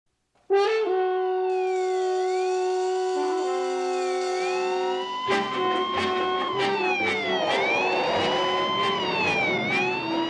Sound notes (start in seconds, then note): 5.0 police siren wailing